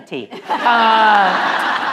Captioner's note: laughter